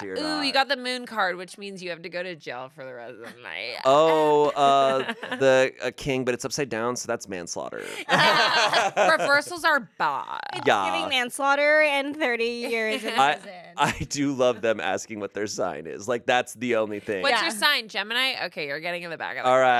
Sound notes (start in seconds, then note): 7.8 everyone laughs